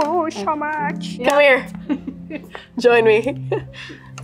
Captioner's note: chuckles